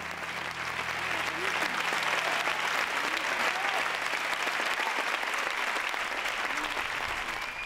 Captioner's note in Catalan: aplaudiments